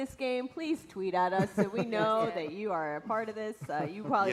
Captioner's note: laughter